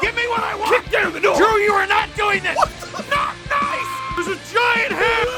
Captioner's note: screaming; Harry potter screaming